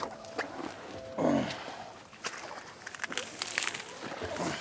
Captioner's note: grunting